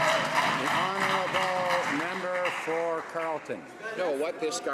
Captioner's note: some Applause